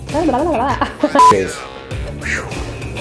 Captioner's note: laughs; beep